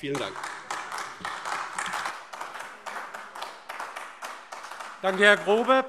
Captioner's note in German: Beifall AfD